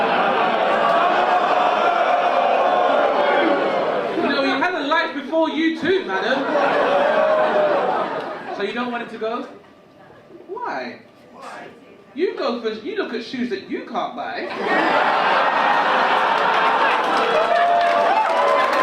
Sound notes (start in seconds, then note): 0.0 audience laugh and boo; 6.0 audience laugh; 14.4 audience laugh and cheer